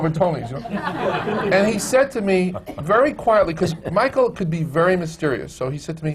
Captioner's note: laughter